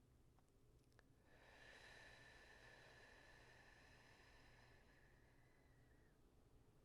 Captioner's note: exhales slowly